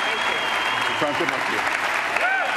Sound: applause

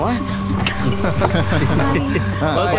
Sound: laughing

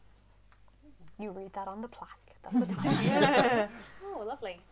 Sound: laughter

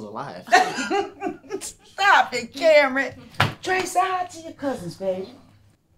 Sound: laugh

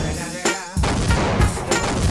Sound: missile exploding

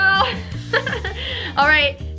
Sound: chuckles

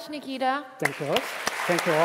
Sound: applause

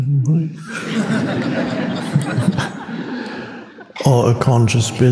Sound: audience laughs

